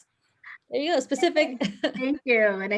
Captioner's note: laughs